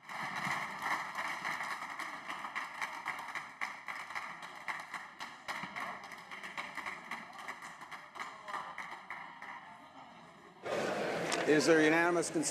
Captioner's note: applause